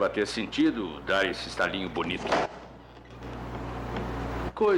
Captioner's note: heels Click